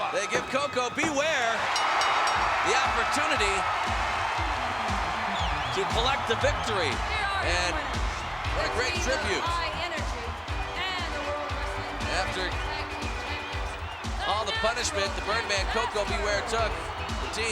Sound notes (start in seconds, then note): 1.6 bell rings; 4.0 crowd cheers; 4.0 hip hop music plays